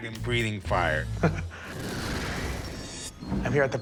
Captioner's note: chuckles